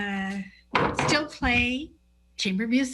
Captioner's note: table thuds